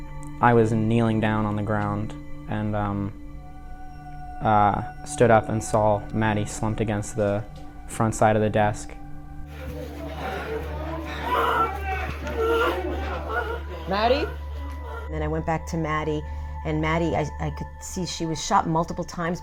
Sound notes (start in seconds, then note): 9.5 students yelling and crying